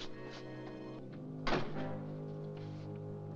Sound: ominous music; door closes

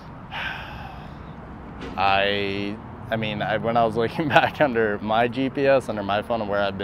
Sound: exhales

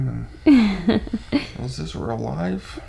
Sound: laughs

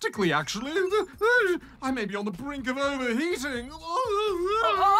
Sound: whimpers; wails

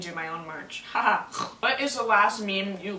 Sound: snorts

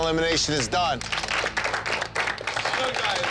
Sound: crowd applauds

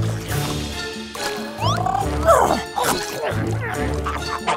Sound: squawking

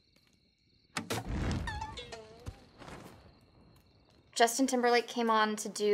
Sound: strings popping

